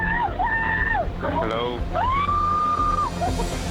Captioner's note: woman screaming